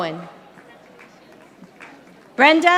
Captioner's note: audience applauding